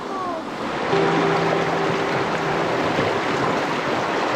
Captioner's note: foreign language; water rushing